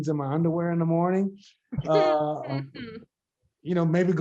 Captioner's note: group members laugh